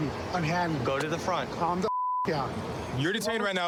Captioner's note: beep